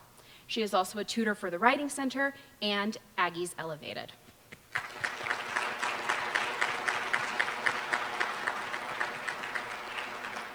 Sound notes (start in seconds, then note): 4.7 applause